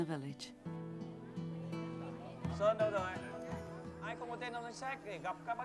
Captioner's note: speaking in foreign language